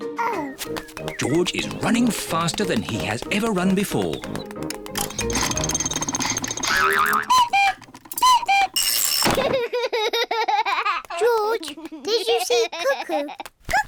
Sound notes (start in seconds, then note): 6.3 panting; 7.4 clock cuckoos; 9.4 laughs